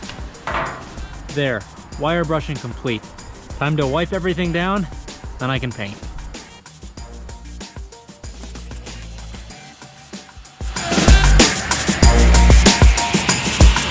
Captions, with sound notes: (items thudding) There, wire brushing complete, time to wipe everything down, then I can paint. (upbeat music continues)